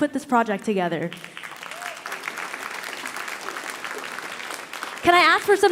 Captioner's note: audience applauding